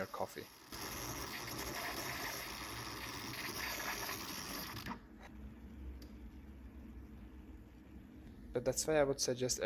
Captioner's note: bubbling milk noises